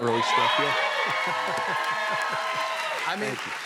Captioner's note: cheers and applause